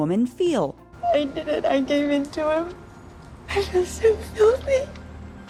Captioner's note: sobbing